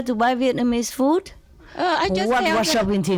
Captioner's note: Vietnamese